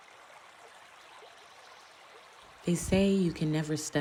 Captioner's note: flowing water